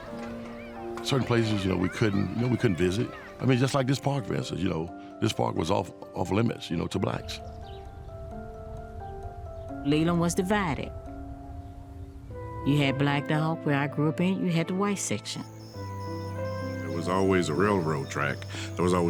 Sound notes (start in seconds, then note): 14.9 insects chirping